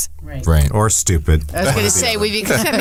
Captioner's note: laughs